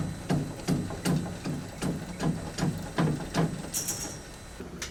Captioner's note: machine banging